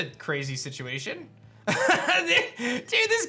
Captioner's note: laughs